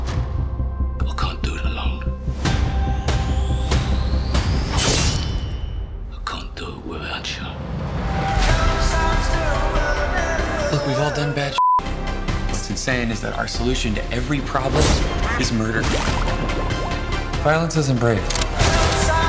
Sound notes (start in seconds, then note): 3.2 dramatic music; 11.5 beep